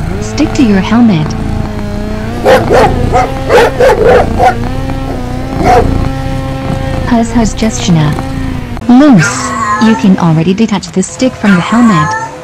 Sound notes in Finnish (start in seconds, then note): 2.4 Dougi haukkuu takapenkillä